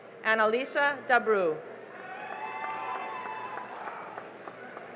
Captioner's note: cheering and applause